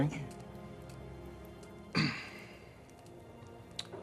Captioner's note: clears throat